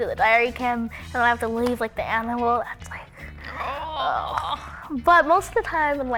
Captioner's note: grunts